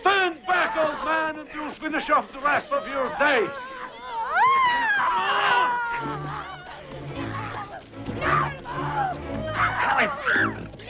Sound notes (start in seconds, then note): 2.6 family screaming; 7.8 dramatic music